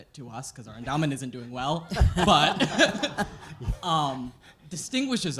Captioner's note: laughter